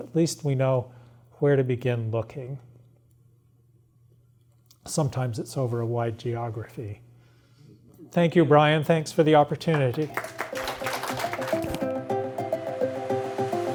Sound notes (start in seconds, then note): 9.6 applause